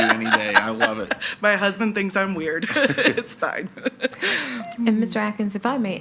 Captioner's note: laughs